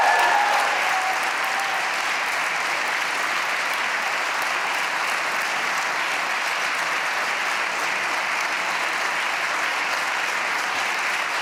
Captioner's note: applause